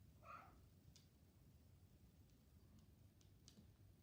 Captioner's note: cat meowing